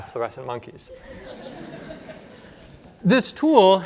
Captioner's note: laughter